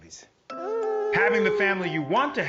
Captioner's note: baby coos